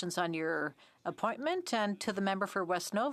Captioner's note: speaking French